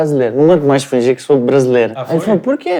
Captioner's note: repeats himself with Portugal accent